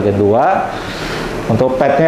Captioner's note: inhale